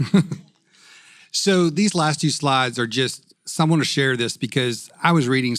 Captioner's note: laugh